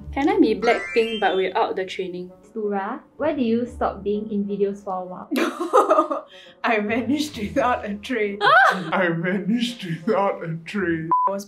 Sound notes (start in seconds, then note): 5.3 laughs